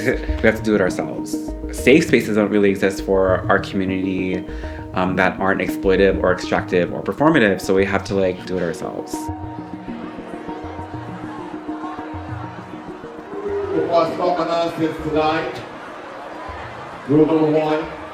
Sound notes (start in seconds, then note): 9.5 indistinct chatter